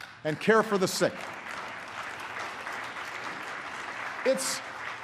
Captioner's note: applause